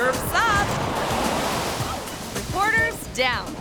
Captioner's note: wave crashing